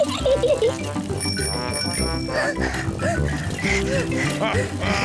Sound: giggles; rings bell and pants; chuckles

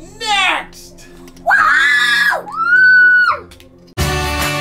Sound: cheering

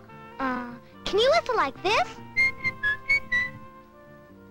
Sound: whistles

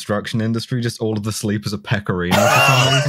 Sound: laughter

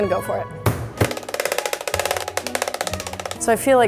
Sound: mallet pounds

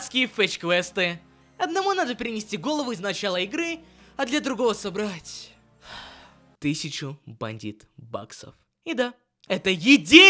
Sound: sigh

